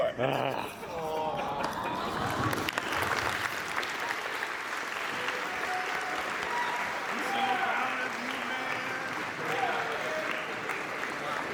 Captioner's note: cheering and applause